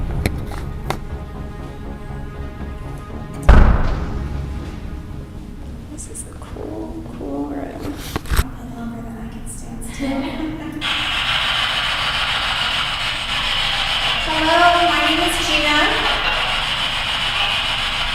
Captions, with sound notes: This is cool, cool room. I don't know if I can stand still. (ladies laughing) (static buzzing) Hello, my name is Gina.